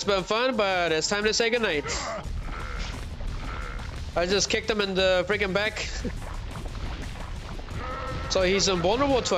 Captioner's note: groaning